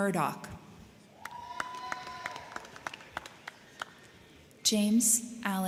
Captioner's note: crowd cheering; crowd clapping